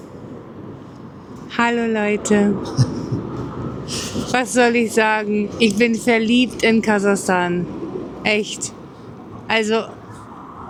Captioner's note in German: schnauben